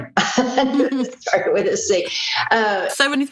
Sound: she laughs

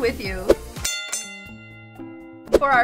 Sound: bell ringing

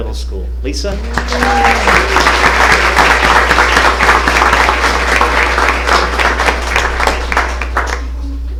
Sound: applause

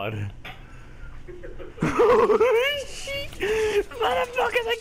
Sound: both Laugh

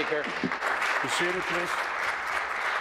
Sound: applause

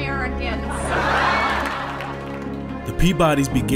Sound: audience laughing

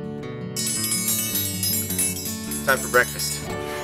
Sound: gentle guitar music; bell ringing

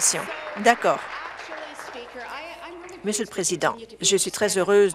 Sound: applause

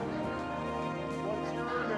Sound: audience laughs

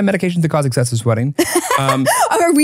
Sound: laughing

